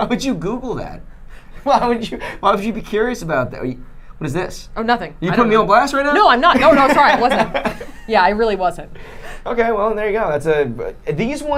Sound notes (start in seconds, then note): 6.5 laughing